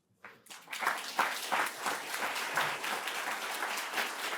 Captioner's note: applause